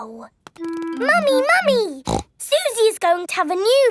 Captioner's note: snorts